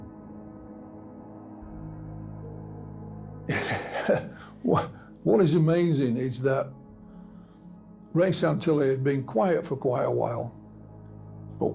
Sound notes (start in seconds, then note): 3.5 chuckles